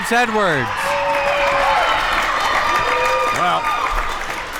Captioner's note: crowd cheers